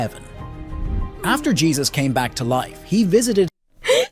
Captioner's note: man quietly yawns; giggles